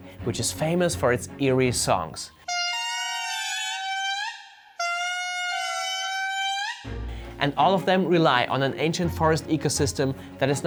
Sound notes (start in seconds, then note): 2.5 lemurs trilling